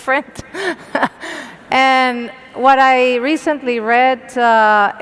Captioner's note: laugh